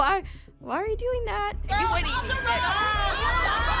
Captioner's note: overlapping chatter